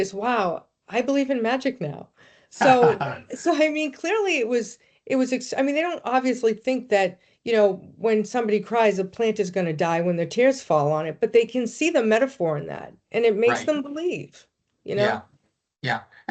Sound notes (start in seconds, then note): 2.6 laughing; 2.6 chuckling